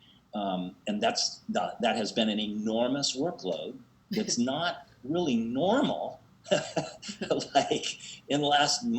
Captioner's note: laughs